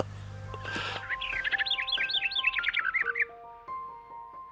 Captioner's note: bird chirping